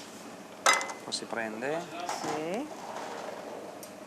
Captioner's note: speaking Italian